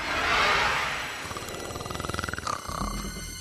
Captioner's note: snoring